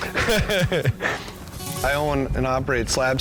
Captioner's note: laughter